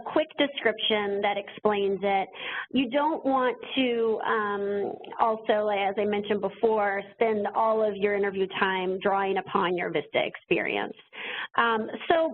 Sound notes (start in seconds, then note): none